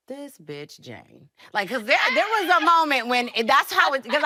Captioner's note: laughing